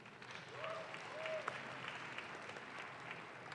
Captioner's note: audience claps